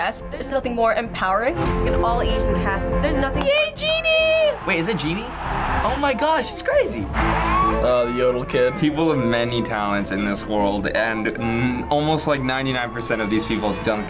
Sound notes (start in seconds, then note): 3.3 claps